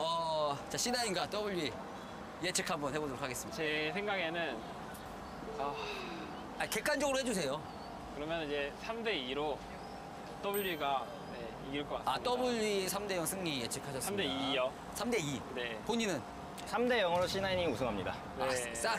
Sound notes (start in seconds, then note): 5.6 sigh